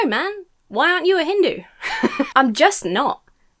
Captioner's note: laughs